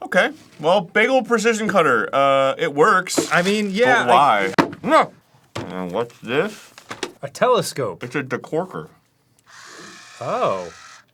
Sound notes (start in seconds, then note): 9.4 decorker whirring slowly